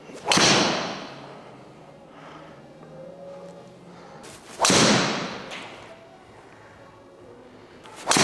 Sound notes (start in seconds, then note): 0.2 golf club hits ball; 4.5 golf club hits ball